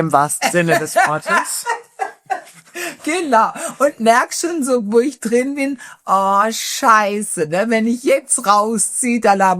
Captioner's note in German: gelächter